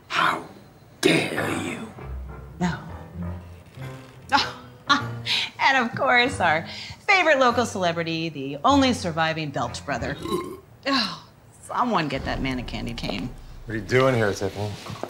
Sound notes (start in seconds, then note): 4.1 laughs; 10.2 man belching; 11.6 groans